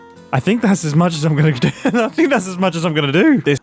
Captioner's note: laughs